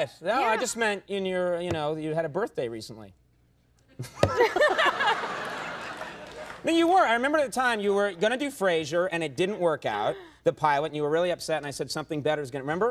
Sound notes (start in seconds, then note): 4.1 laughing